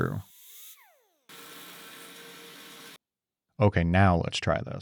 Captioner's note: machine whirring